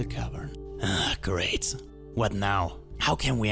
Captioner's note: sighs